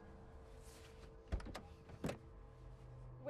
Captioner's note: door unlatching